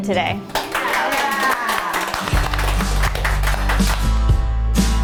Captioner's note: clapping